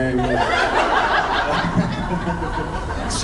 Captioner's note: laughs